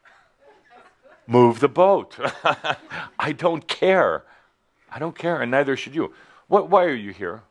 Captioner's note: chuckles